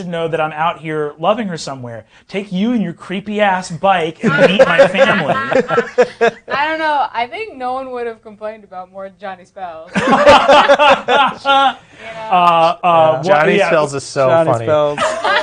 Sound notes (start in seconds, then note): 4.2 others laughing; 9.9 laughing; 14.9 laughing